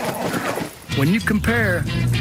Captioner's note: grrrrrr